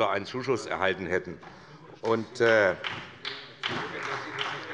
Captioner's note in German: Beifall bei Abgeordneten der SPD